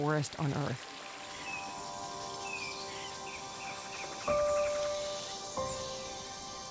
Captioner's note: wildlife chittering